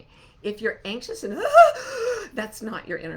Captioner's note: gasping